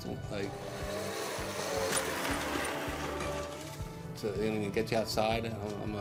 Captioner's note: chair revving